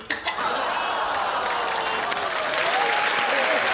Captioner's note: gags